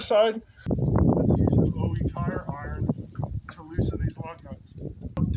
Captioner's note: wind buffeting